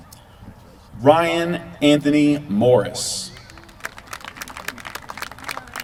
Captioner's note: applause